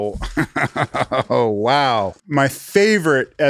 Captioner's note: chuckles